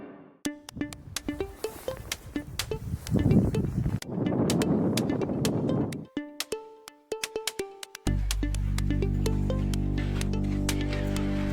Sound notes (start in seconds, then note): 0.5 bright music; 4.1 wind